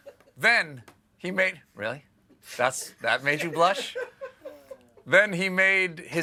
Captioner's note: laughter